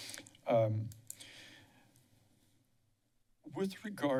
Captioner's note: silence